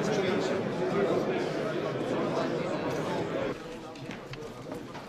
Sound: indistinct conversation

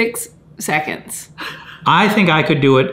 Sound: chuckling

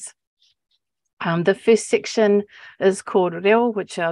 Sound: speaking Maori

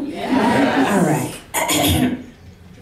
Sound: clears throat

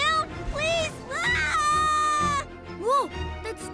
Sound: screams

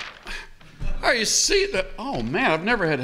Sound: rustles paper

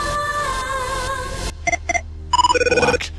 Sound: electronic Sounds

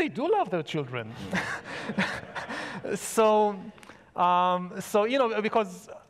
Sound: audience laughs; laughs

